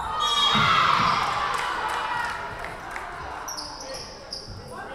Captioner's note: whistle blowing